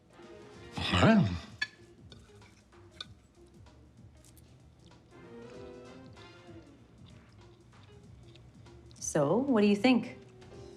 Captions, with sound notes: (grunts) - So? What do you think?